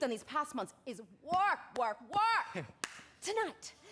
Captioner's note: chuckles